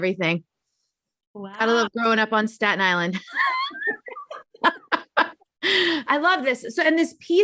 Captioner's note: chuckling